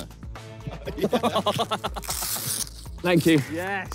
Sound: players laugh

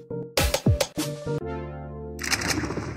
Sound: music or game and welcome sounds; music or game and galloping horse

